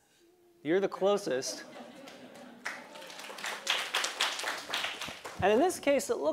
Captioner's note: laugh; applause